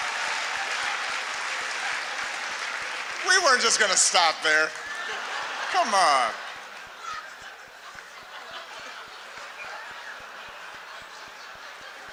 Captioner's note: laughter, applause